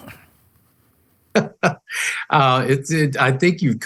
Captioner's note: chuckles